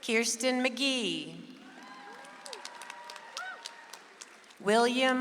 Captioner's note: audience applauds